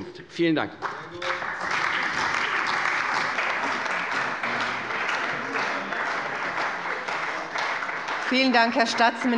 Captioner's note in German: Beifall bei der CDU und dem BÜNDNIS 90/DIE GRÜNEN